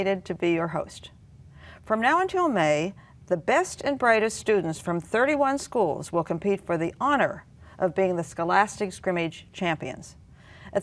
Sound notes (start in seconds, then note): none